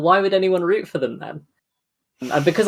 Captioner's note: laughs